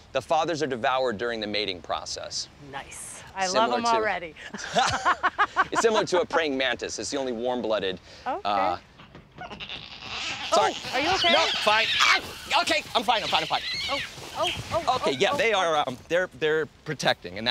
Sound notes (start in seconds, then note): 4.5 both laugh; 9.4 loud squawking